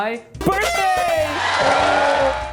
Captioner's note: horns blowing; crowd cheering